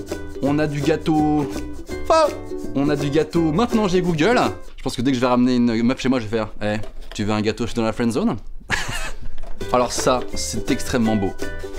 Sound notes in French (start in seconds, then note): 8.7 rire